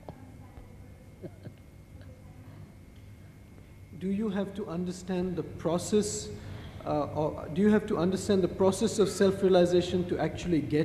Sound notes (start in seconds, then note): 1.1 shri mataji laughs